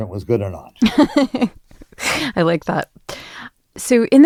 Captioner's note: laughs